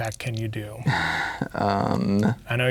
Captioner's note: scoffs